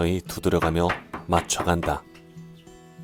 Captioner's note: hammering sound